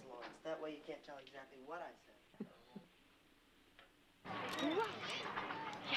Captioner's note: chuckles